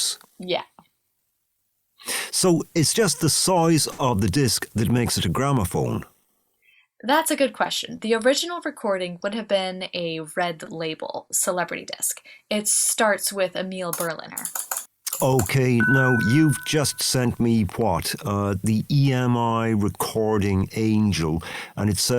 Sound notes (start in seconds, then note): 15.1 typing sounds and a tone